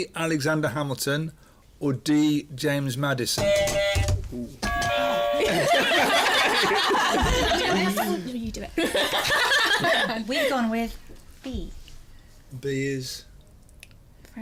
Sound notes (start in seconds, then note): 3.4 buzzer; 4.6 funny buzzer; 5.3 laughter